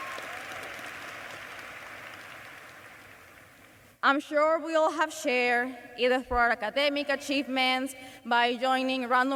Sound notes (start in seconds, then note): 0.0 cheers and applause